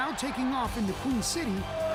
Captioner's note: cheers and applause